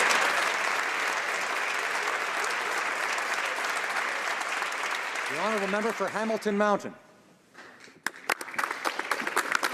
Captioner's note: some Applause